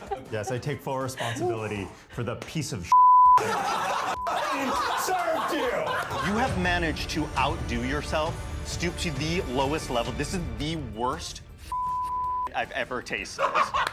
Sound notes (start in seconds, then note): 2.9 beep; 3.4 everyone laughing; 4.1 beep; 11.7 beep; 13.4 everyone laughing